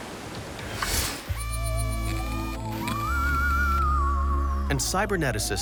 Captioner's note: robotic whirring